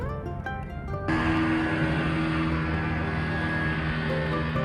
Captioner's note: speedboat noise